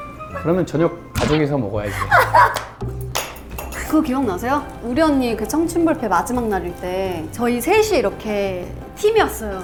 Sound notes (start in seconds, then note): 2.0 haha